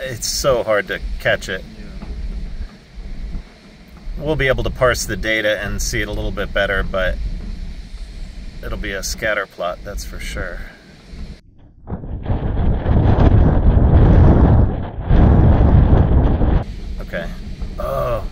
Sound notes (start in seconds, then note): 12.5 wind blowing